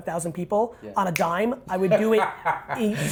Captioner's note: finger snaps